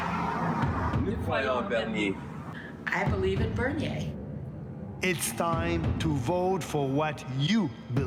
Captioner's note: speaking in French